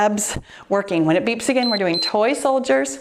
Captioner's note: timer beeps